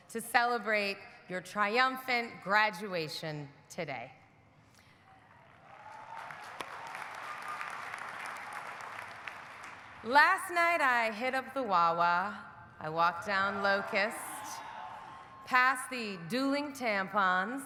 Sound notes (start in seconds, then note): 5.4 audience applauding; 5.6 audience cheering